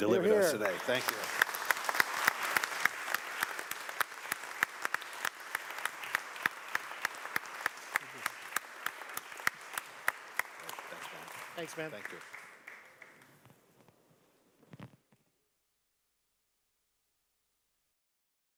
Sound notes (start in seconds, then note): 2.3 applause